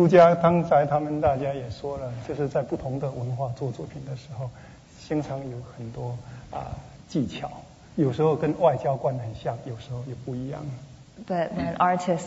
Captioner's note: speaking Mandarin